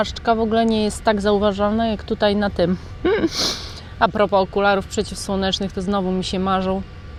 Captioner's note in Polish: śmiech